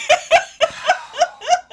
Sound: laughing

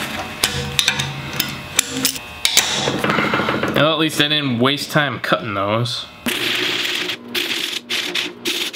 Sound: more metal breaking

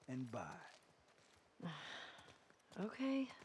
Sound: sigh

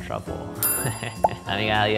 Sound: bell ringing

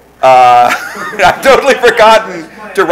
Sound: laughing

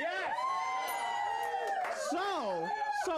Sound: audience cheering

